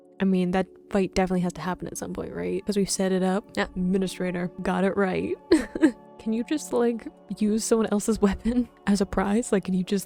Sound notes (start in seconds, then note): 5.5 giggling